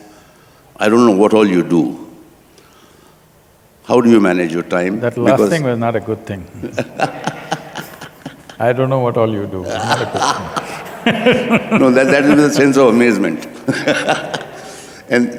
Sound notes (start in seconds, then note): 6.6 laughter; 9.6 both laugh; 14.7 laughter